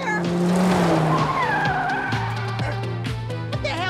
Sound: tires squealing

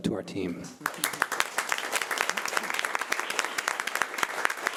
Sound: audience applauding

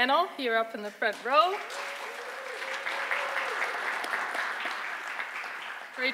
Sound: audience applause

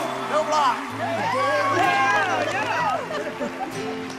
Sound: cheers and applause

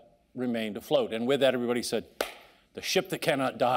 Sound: hands clapping

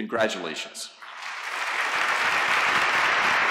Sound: applause

